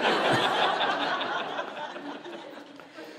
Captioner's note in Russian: смех